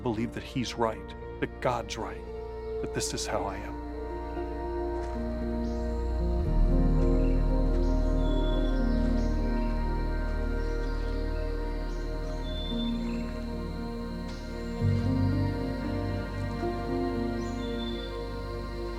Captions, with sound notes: to believe that He's right, that God's right, that this is how I am. (birds singing)